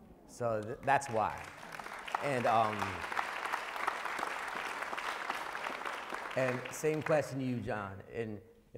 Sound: applause

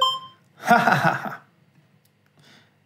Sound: laughs

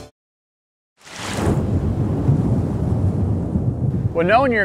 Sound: water gurgling

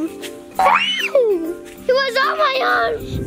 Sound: screams; bouncy spring

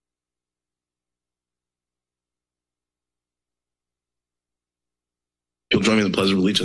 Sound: silence

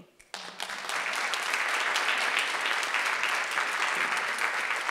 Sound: audience applauding

